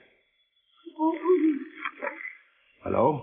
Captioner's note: phone ringing